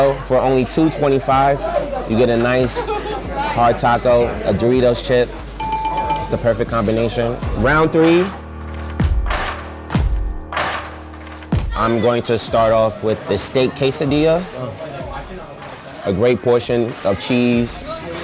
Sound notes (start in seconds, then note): 5.6 dinging; 9.0 intense music